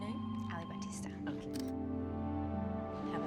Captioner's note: camera shutter